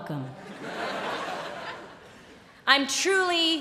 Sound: laughter

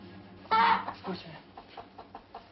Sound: chicken clucking

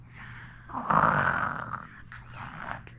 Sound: snoring~

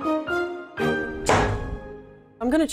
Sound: chopping

